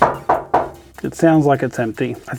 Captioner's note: knocking